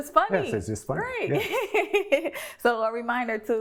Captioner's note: laughs